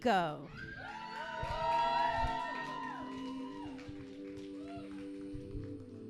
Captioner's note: audience cheering